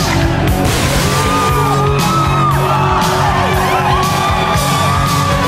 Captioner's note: audience cheers